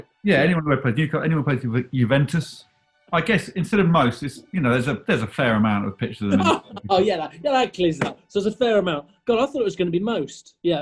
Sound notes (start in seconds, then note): 6.3 laughs